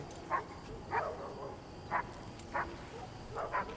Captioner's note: dogs barking